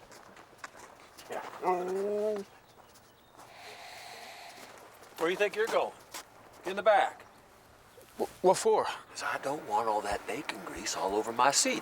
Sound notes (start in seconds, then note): 1.8 Buck whimpering